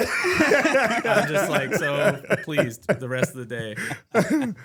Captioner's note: both Laughing